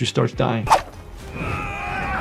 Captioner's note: screen whooshing; character shouting